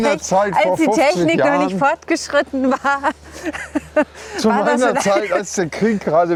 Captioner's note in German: gelächter